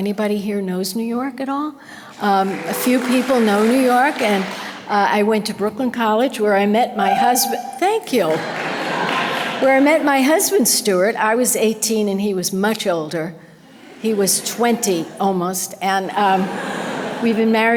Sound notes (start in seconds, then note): 2.0 audience applause; 7.0 audience member hoots enthusiastically; 9.8 audience laughter; 14.0 audience laughter